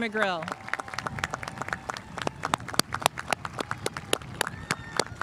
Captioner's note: spectators applauding